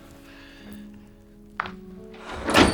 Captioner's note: snapping